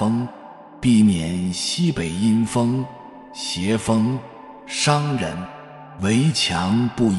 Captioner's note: evil wind